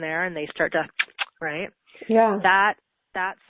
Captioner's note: suckles